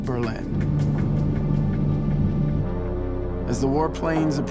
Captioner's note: engines droning